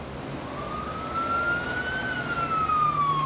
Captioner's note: police siren blaring